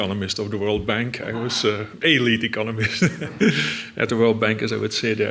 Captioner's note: laughs